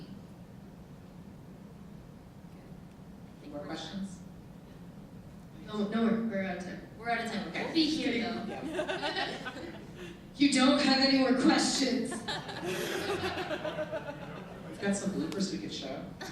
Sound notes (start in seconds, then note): 8.3 laughing; 12.0 all Laughing